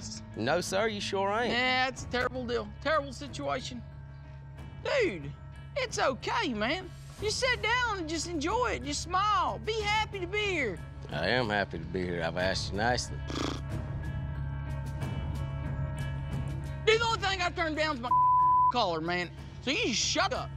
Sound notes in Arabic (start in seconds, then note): 13.2 ينفخ التوت; 15.0 موسيقى متوترة